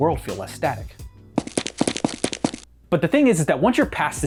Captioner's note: cinematic footsteps sfx